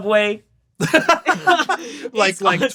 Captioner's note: laughs